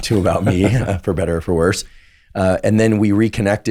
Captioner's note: laughs